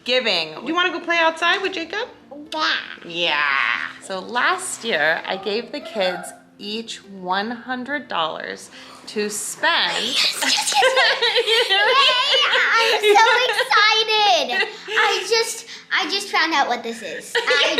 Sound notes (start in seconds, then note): 10.0 laughing